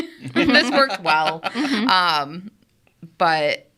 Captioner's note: group laughs